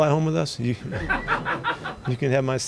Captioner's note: laughter